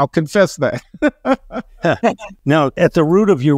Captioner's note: laughs